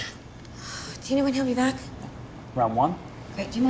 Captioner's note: sighs